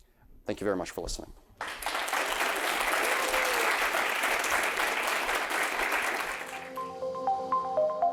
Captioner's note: applause